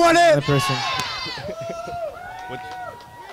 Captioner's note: crowd